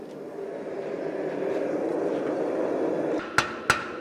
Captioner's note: blast from the furnace; sharp metallic hammering